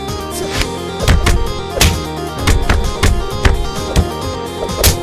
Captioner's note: punches thudding